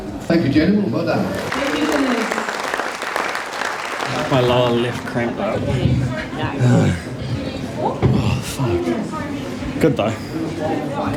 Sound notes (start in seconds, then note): 1.1 crowd cheers; 6.5 sighs